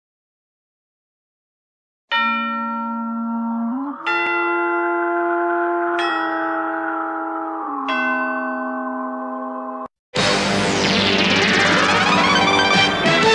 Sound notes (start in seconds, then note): 2.1 spooky chime plays; 10.2 digital synth music playing